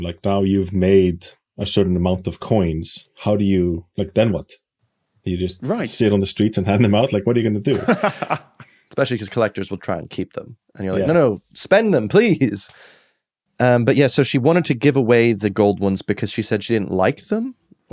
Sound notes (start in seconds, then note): 7.7 laughs